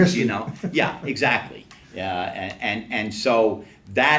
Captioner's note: laughs